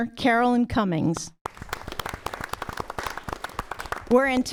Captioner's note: applause